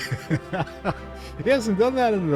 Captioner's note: laughs